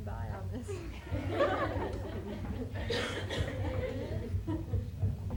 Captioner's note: laughter